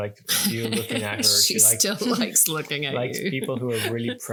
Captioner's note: laughing